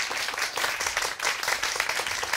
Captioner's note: applause